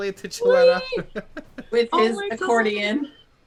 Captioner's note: laughter